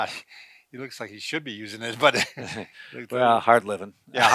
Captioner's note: chuckles